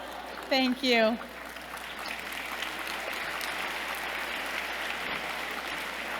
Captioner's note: applause